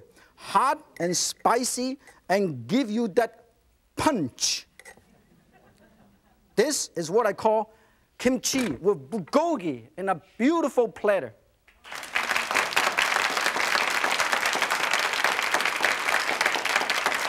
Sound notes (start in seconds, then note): 5.1 audience giggles; 11.7 audience applauds